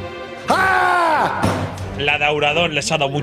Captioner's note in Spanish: grita